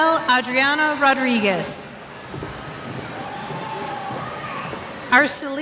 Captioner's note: cheers